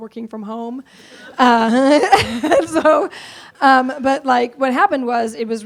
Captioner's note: laughs